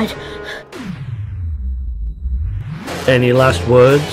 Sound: slo-mo SFX

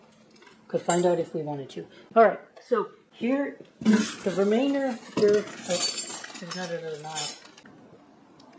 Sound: sound of flatware crashing in the background

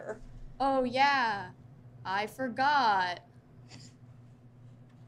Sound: chuckles

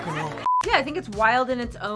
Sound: beep

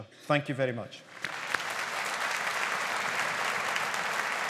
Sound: audience applauding

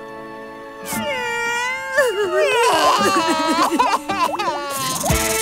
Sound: crying

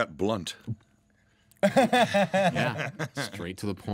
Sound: laughing

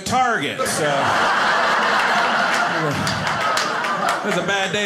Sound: audience laughing

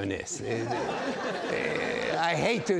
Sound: audience laughs

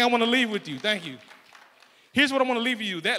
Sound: applause

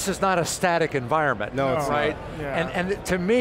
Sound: group chatter

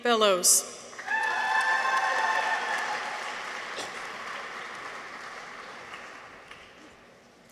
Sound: people cheer; audience applauds

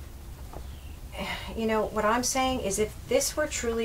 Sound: sighs

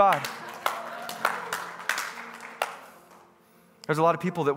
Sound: congregants clapping

